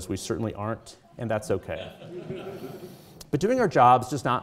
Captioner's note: audience chuckling